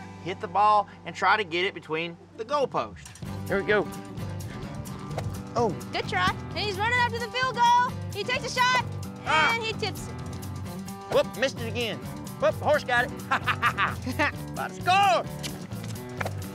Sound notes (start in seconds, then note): 6.5 imitates tv commentator; 13.2 laughs; 15.3 kissing sound to horse